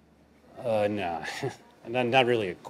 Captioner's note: chuckles